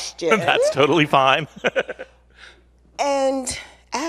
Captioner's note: laughs